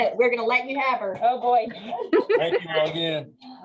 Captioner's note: laughs